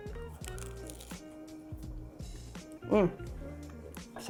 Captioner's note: pastry crunches